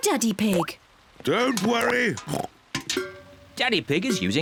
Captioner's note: oinks